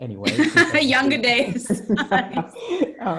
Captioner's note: laughs